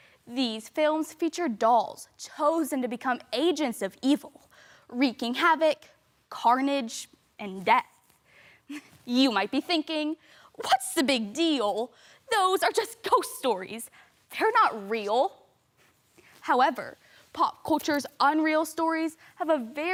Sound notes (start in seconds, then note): 15.7 soft breathing